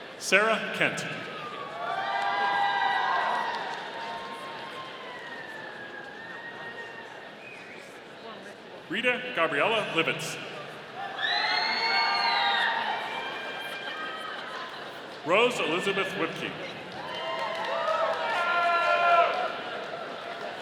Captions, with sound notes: Sarah Kent. (audience cheering) Rita Gabriela Livits. (audience cheering) Rose Elizabeth Wipke. (audience cheering)